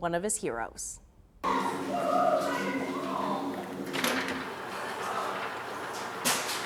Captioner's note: running